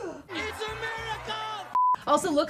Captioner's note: gasps